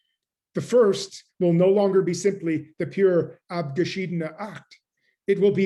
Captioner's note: german